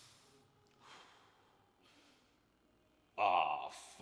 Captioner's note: breathing heavily